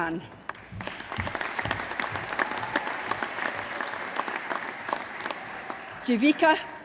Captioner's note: applause